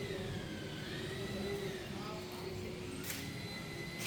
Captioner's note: sounds of store renovation work